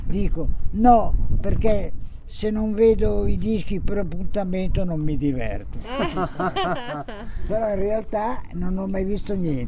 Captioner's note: laughter